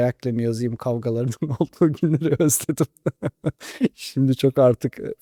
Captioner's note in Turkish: kahkaha